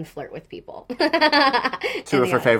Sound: she laughs

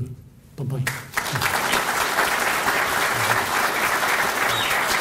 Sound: applause

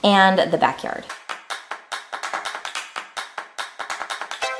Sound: clapping

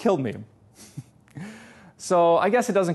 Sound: pastor: Laughter

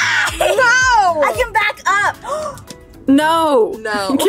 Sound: laughs; gasps

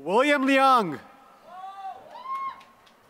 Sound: applause

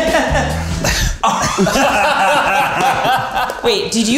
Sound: all laughing

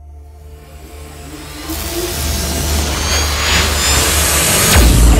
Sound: increasing intense buzzing

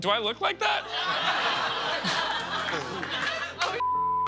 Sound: laughter

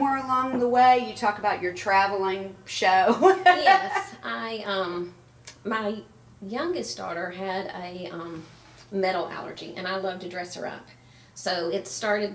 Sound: laughs

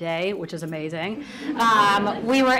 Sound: audience laughs

